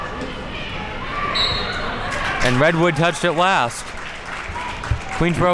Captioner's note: whistle blows